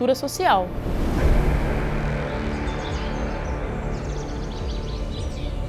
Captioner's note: nature sounds